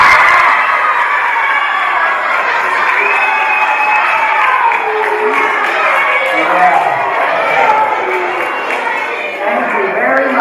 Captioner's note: applause